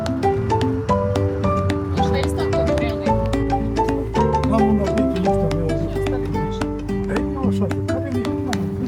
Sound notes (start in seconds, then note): 4.8 speaking foreign language